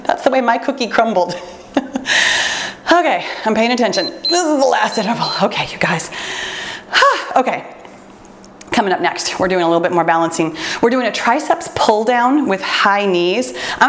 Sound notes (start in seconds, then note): 2.3 laughs; 3.9 timer beeps; 6.2 exhales deeply